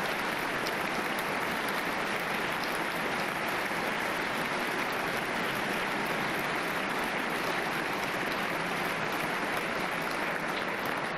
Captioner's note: applause